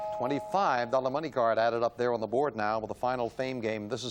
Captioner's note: ding; bell